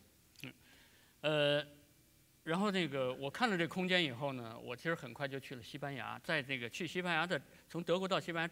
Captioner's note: speaking in Chinese